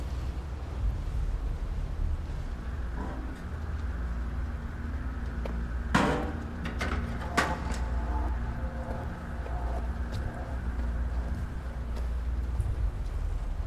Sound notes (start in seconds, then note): 2.8 metal scrapes; 11.5 heavy footsteps disperse